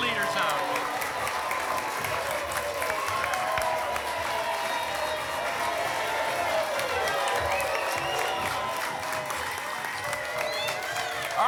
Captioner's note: applause and cheering